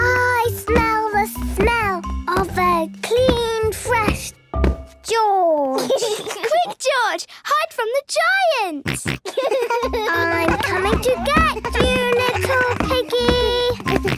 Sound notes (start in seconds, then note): 8.8 giggles, snorts